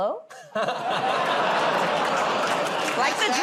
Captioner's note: laughter, audience "Oh"s